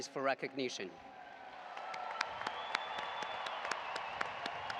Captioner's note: audience applauding